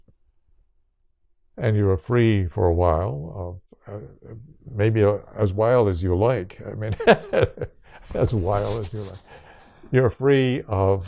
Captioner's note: laughs